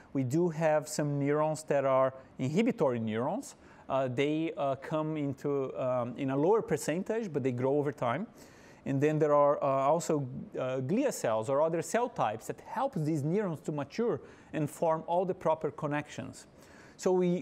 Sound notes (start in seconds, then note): none